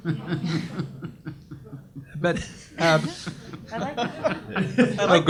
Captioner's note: audience laughs